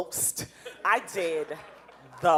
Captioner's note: audience laughing